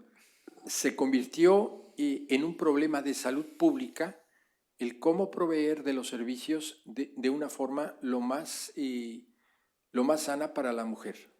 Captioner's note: speaking spanish